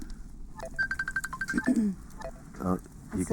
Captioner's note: phone ringing